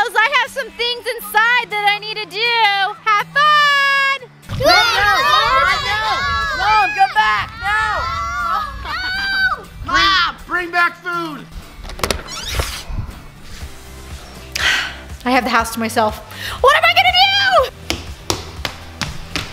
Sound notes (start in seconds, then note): 4.7 all shouting